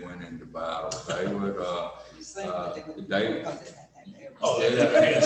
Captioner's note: loud laughter